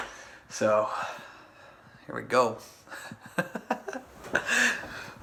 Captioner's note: laughs